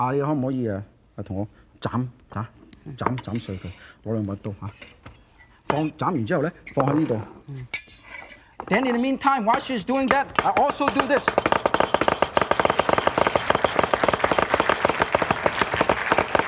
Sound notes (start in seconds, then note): 0.2 foreign language; 10.0 knife chopping; 12.0 audience clapping